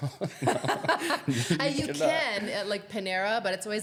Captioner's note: laughing